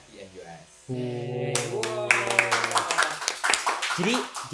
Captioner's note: clap